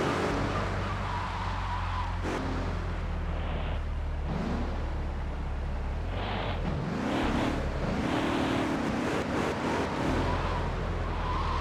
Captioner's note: tires screeching